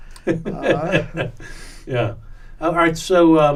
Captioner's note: laughs